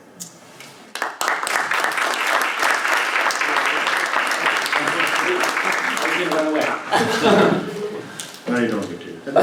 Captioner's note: applause